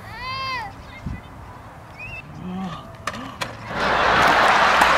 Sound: whining; gasps; audience laughing and applauding

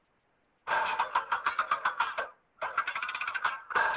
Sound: light mechanical sounds

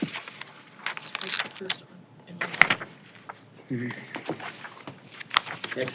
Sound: indistinct chatter

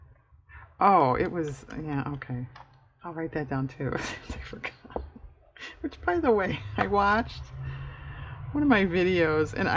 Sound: laughs

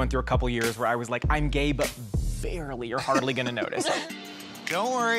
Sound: laughter

